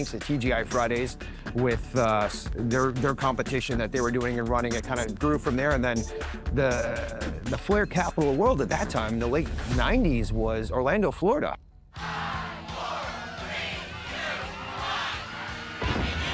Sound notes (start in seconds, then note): 12.4 people applauding